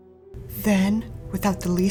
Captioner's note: Static